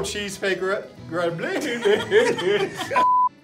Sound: laughing

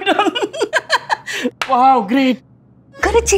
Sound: chuckles

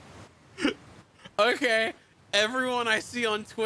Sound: heartbroken Laughter

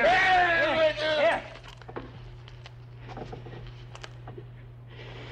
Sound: Barney wails

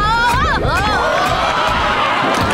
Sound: screaming

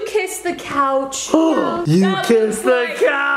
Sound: gasps

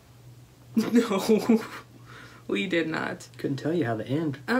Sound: laughs

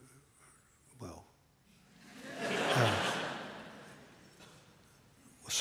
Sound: laughter

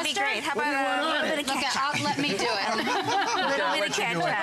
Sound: laughter

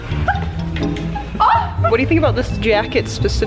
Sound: gasps

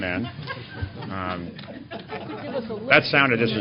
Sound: laughter

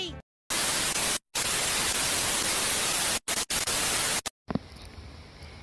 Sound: TV static

